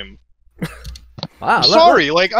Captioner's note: laughs